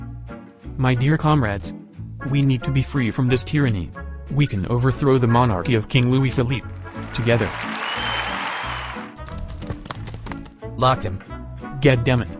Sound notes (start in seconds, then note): 6.6 applause